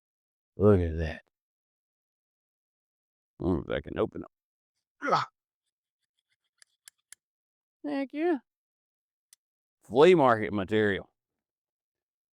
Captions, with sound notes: Look at that. I don't know if that can open up. (Grunting) Thank you. Flame market material.